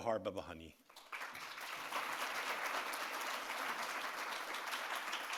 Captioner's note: audience applauds